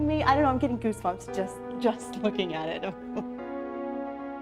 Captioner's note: laughs